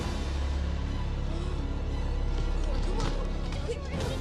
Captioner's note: foreboding music quickens; Tommy gasps